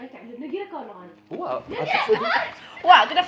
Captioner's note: screaming